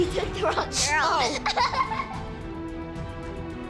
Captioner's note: laughs